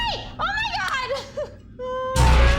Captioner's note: nervous laugh